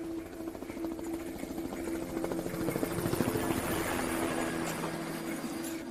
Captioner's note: helicopter sound